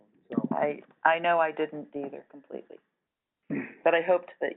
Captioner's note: voiceover